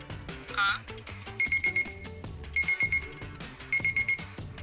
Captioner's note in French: signal sonore